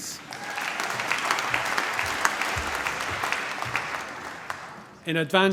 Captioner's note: cheering, applause